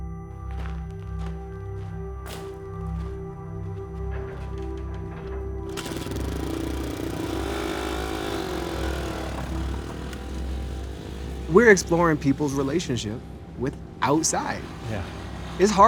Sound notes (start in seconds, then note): 0.2 suspenseful music; 5.9 motorcycle engine whirring